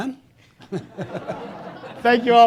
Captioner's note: audience laughing